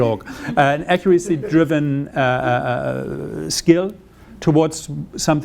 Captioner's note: audience laughing